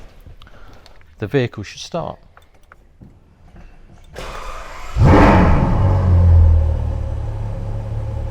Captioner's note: car starts